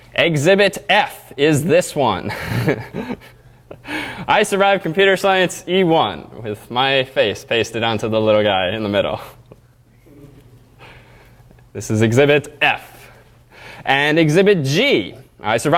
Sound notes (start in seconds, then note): 2.2 laugh